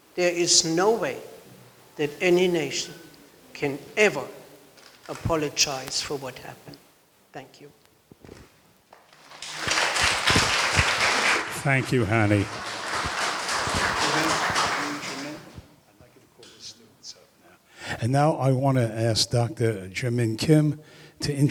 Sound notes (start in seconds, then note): 8.9 applause